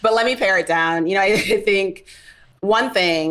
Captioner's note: laughs